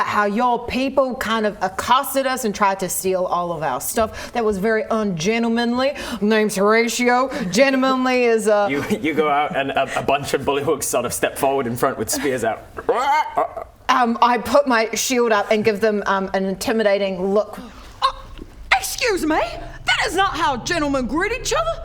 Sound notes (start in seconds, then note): 12.9 ribbet